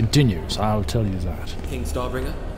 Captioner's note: footsteps approaching